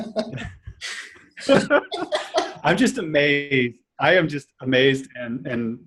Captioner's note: laughing